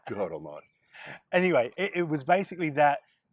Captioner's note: they laugh